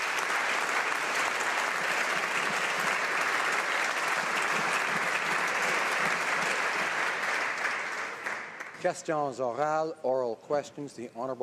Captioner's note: applause